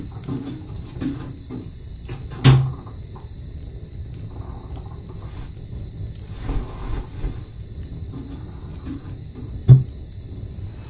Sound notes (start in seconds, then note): 0.1 creaking piano bench; 2.3 wooden thud; 6.2 clothes rustling